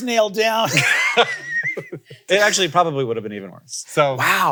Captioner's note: laughs